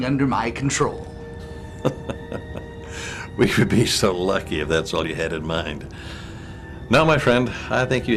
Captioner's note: laugh